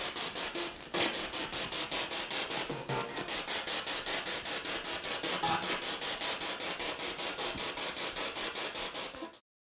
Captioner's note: sound of the Spirit Box in the background